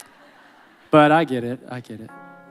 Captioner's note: audience laughing